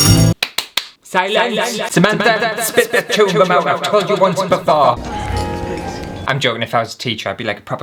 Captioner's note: clap Clap